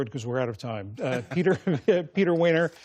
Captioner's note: laughter